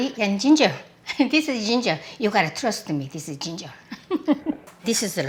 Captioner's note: laughs